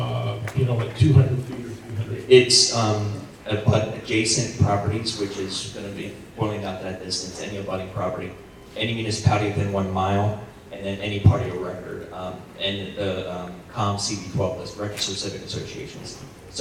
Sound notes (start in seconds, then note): none